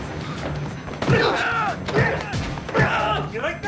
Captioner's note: groaning